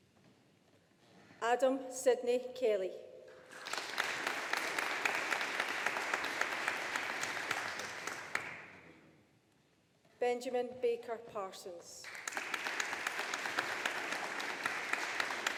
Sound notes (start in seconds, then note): 3.4 audience applauding; 12.0 audience applauding